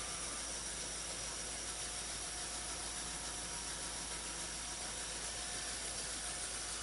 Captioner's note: clockwork motor running normally